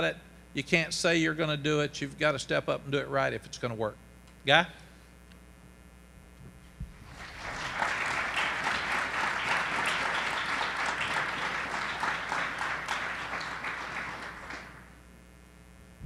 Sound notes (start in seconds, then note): 6.9 group applauds